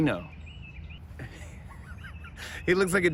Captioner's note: laughs